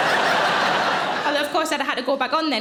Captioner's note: audience laughing